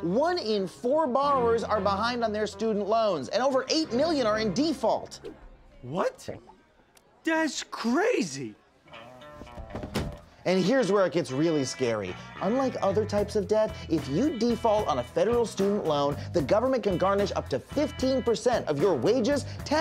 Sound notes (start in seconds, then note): 9.7 loud thud